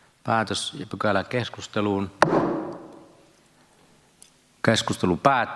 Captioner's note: Nuijan kopautus